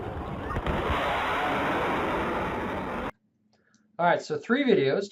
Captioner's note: jet engine blasting